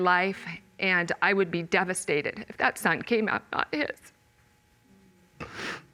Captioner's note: sniffling